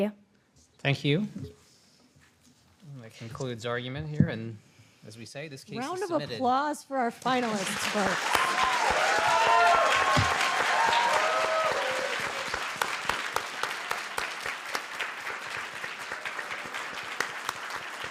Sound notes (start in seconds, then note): 8.4 applause